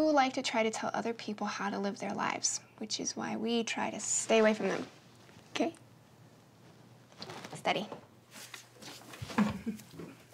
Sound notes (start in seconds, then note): 9.4 chuckle